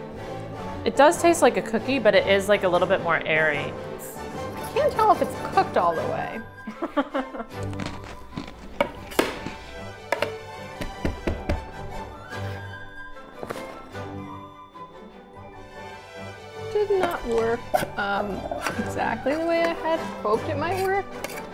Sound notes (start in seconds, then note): 6.6 laughing; 10.8 thumping